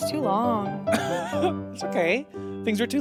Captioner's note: laughs